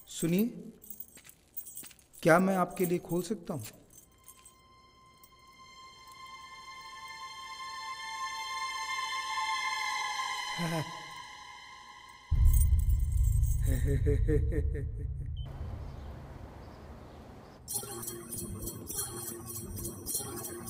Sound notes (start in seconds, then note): 13.6 Laughs